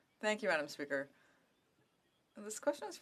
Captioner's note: speaking in French